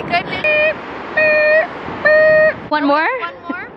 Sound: mimicking a truck beeping

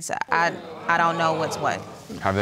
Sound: audience groans

